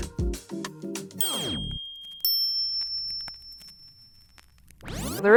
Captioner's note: bells ringing